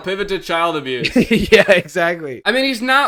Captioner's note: laughs